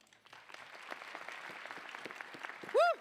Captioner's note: applause